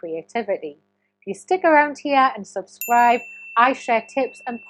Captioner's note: chime ringing